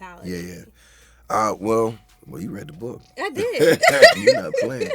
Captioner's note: laughs